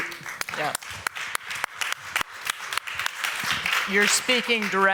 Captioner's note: applause